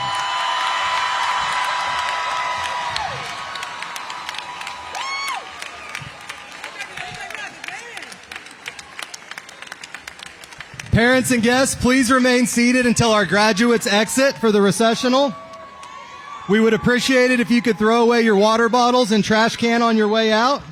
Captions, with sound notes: [CHEERS AND APPLAUSE] PARENTS AND GUESTS, PLEASE REMAIN SEATED UNTIL OUR DAMAGE WATTS GO FOR THE RECESSIONAL. WE APPRECIATE THROW OUT YOUR WATER BOTTLES AND TRASH CANS TO THROW OUT.